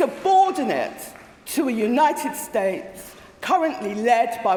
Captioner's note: applause